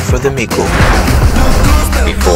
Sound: whoosh Swoosh

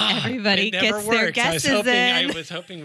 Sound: laughs; sighs

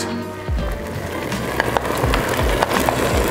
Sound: sizzling

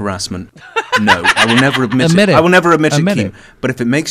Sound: laughter

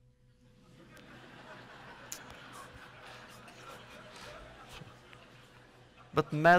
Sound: laughter

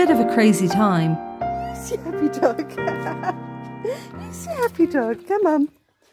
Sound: laughter

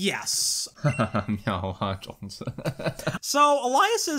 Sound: laughs

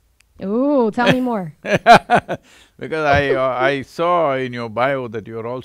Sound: Sadhguru laughs

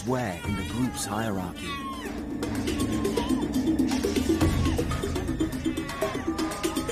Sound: suspenseful music continues; hyenas squeal

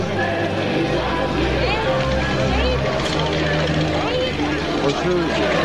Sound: tank engines rumbling

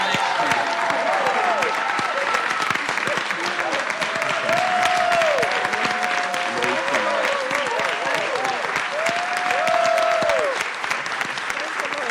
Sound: cheers and applause

